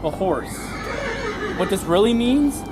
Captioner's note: horse winny